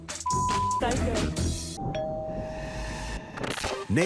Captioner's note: doorbell rings